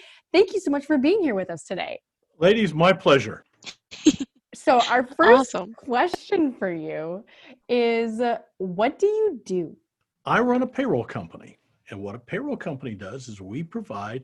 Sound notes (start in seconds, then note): 3.8 giggles